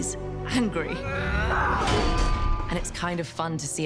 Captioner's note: grunts heavily